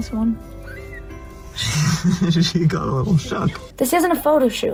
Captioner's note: kitten Mewing; nervous Giggles